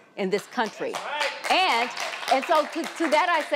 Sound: audience applauding

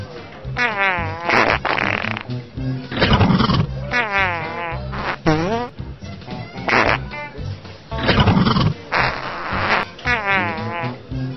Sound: Lobo and Sniff fart at each other repeatedly

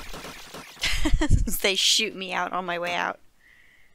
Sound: laughing

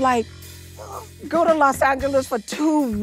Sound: gasping

